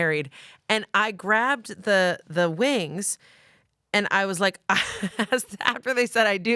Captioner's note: laughs